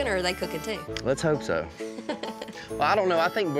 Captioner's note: laughs